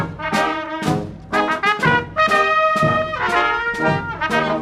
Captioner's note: none